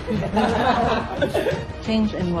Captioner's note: laughter